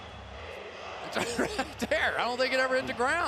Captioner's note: laughs